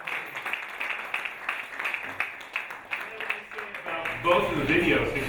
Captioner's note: audience applauding